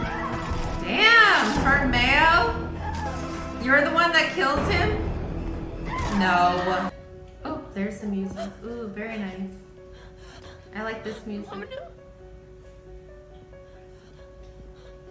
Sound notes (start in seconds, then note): 0.0 Karen loudly screaming